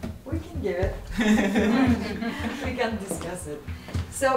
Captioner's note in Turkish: Gülüşmeler